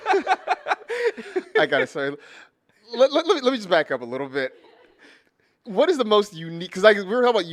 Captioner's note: laughter